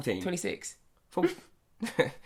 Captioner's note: snickers